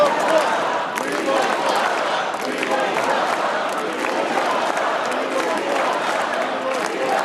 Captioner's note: cheers and applause